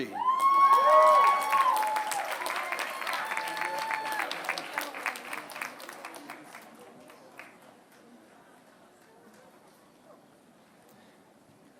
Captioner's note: applause